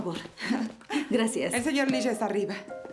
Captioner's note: laughing